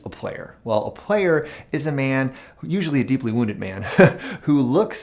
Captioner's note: chuckles